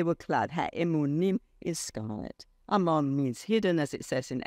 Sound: speaks foreign language

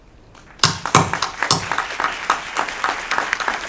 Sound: applause

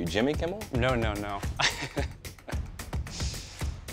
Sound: chuckles

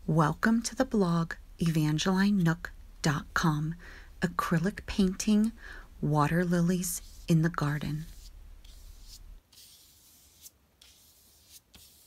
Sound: brush strokes and Music

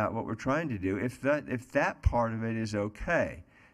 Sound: none

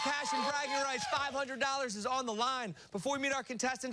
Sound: cheers and applause

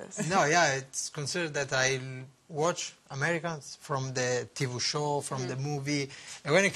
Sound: laughter

